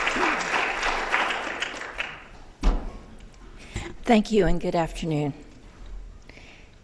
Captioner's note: applause